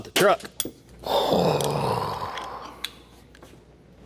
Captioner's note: sighing